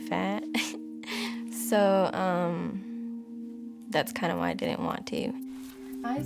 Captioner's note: chuckles